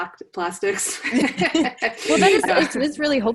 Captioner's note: laughs